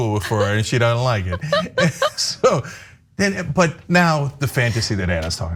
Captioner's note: laugh